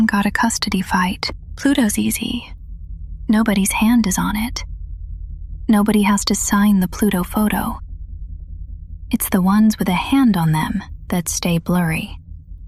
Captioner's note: whispers